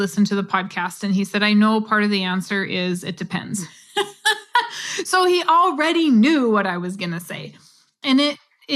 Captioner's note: laugh